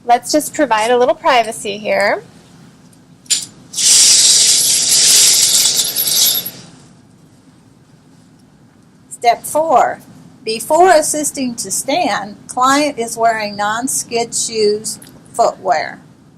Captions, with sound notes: - Let's just provide a little privacy here. (curtain drawing) - Step four, before assisting to stand, client is wearing non-skid shoes footwear.